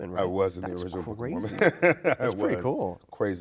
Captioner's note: Brian laughing